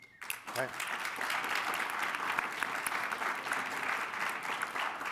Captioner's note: audience applauding